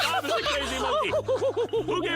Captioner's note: laughter